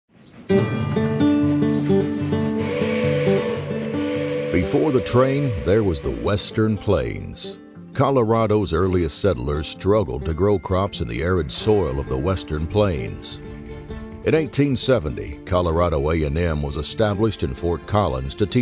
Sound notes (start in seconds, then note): 0.1 gentle music; 2.5 train horn blowing